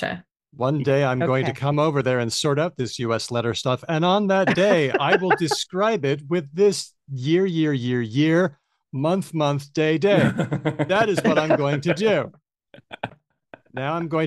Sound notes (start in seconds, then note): 4.4 laughs; 10.1 laughs